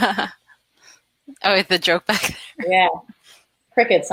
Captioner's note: laughs